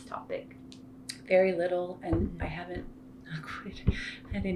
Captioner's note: knock wood